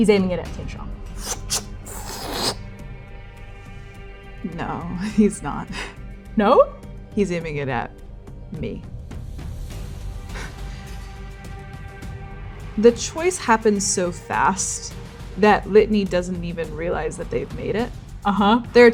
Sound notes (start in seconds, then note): 1.2 crossbow aiming; 1.3 crossbow loading